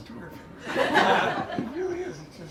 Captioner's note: laughter